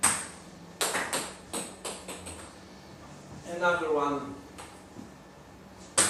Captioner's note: ball ping pong hitting